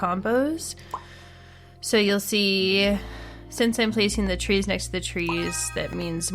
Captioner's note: none